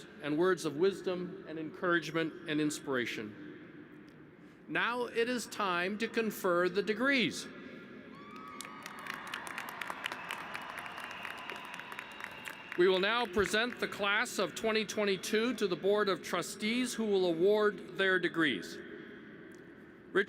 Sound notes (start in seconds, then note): 8.2 applause